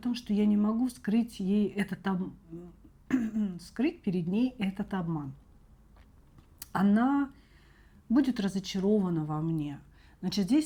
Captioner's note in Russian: откашливается